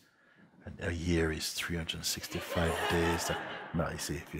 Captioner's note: laughter